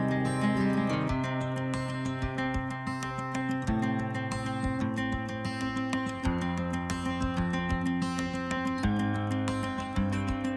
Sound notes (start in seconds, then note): none